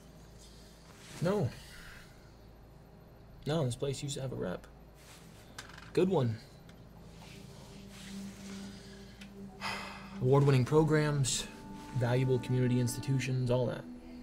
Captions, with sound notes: - No. No. This place used to have a rep. Good one. (gentle music) (sighs) Award-winning programs, valuable community institutions, all that.